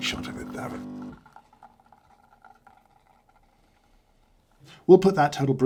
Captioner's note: coffee drips into cup